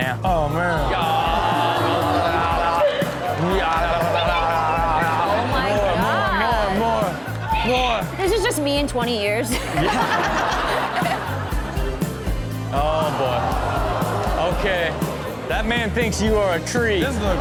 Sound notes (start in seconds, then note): 2.2 yodels; 9.4 laughs